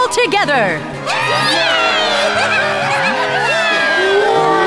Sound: cheers from crowd

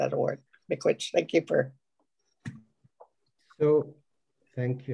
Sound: foreign language

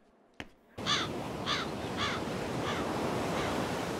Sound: crow cawing

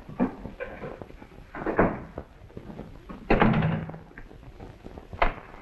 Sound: door closes

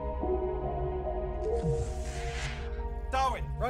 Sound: door whooshes

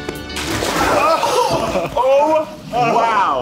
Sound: water splash

